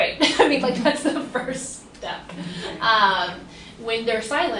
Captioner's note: laughs